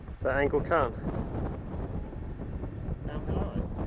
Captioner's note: windy